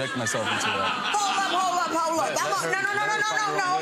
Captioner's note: audience laughs